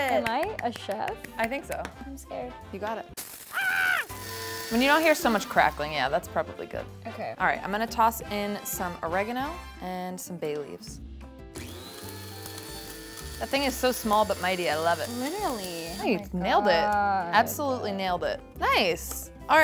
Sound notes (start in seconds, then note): 3.5 screams; 4.0 grinder whirs; 11.5 grinder whirs